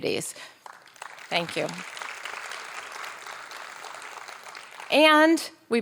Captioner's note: audience applauding